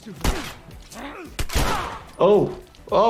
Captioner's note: gunshots